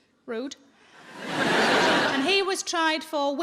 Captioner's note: audience laughing